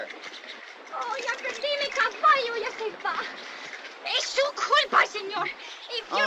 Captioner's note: in spanish